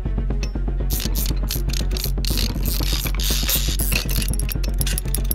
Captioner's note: clock beeps; dramatic music; dial rattling